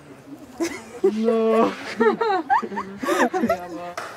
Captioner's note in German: Gelächter